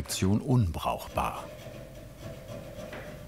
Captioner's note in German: Dumpfe Feilgeräusche